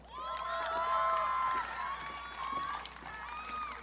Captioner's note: audience cheering